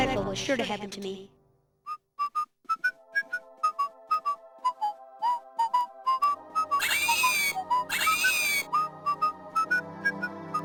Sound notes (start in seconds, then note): 2.6 man whistling; 6.8 plant screaming